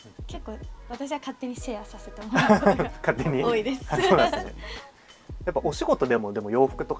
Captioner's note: laughs